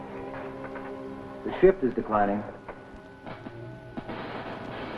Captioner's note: static